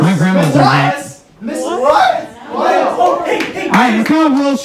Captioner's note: confusion and chatter